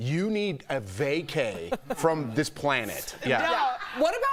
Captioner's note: laughter